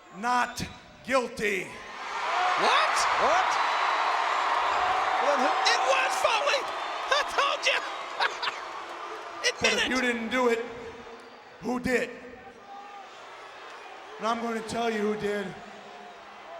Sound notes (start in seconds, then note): 1.8 audience cheering; 7.0 chuckles